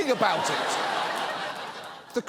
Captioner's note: studio audience laughs